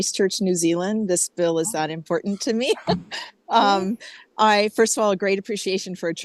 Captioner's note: laughs